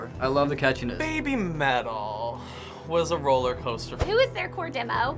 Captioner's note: sighs